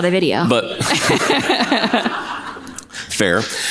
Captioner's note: audience laughs